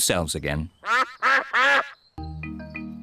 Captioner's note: duck quacks